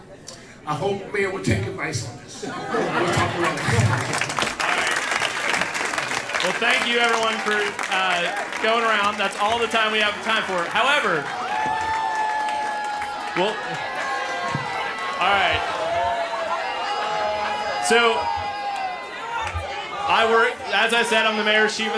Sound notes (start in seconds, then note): 8.6 applause; 12.6 cheers and applause